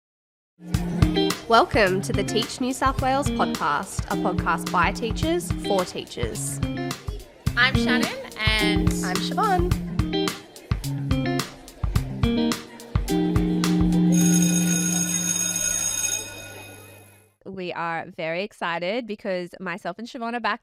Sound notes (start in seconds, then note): 0.7 mellow music; 11.3 mellow music continuing; 14.1 bell ringing